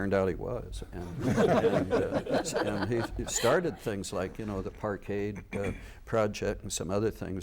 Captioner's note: laughter